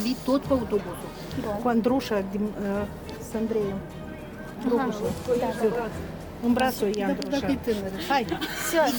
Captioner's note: laughing